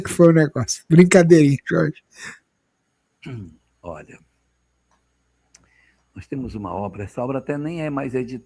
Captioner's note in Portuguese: limpando a garganta